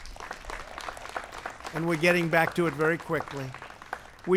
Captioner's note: applause